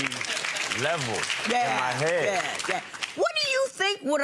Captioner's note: audience applause